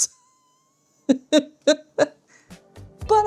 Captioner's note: laughs